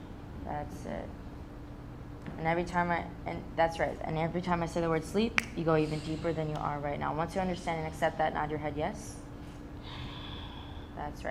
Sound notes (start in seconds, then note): 5.3 fingers snapping; 9.8 exhaling